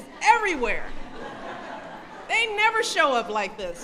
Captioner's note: laughter